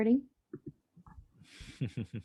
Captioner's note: laughs